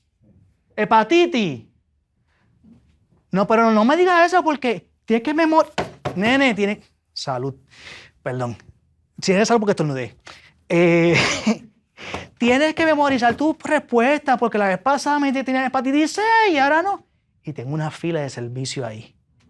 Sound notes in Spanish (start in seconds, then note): 11.1 risas